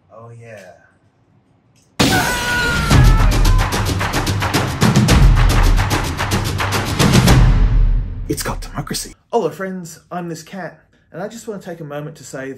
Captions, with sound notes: - Oh yeah. (vehicle exploding) (man screaming) (intense drum beat) It's got democracy. Hello friends, I'm, This Catte. And I just wanna take a moment to say